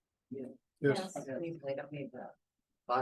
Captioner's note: chatter